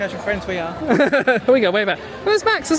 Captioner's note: laughs; chuckles